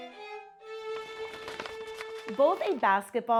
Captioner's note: paper crinkling